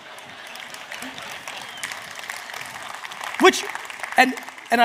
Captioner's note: audience laughs; audience cheers